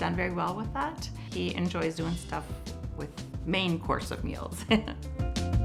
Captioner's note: chuckles; upbeat music